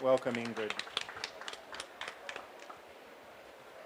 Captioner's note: applause